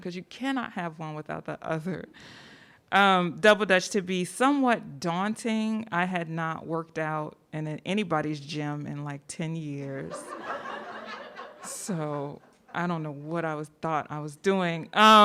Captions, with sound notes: 'cause you cannot have one without the other; double-Dutch to be somewhat daunting, I had not worked out in anybody's gym in like 10 years, (audience laughing) so I don't know what I thought I was doing.